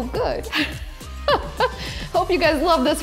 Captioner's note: laughing